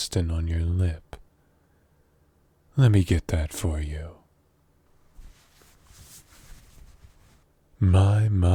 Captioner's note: wiping